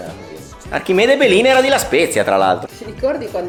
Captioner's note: ligurian accent